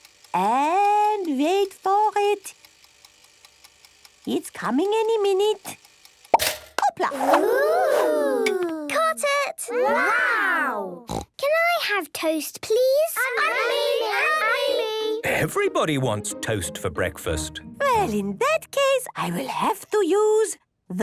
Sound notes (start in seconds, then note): 3.0 toaster ticking; 6.3 pops; 13.2 all calling out